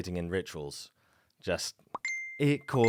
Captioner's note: notification pinging